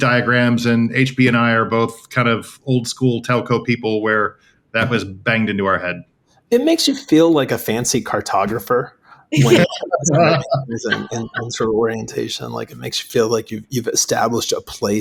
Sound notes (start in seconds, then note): 9.3 laughing